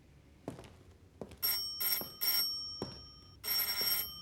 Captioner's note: doorbell ringing